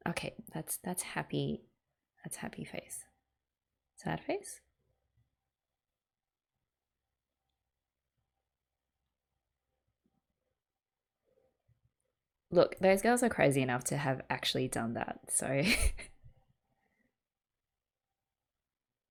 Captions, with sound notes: Okay that's - that's happy. That's happy face. Sad face? Look, those girls are crazy enough to have actually done that, so [laughs].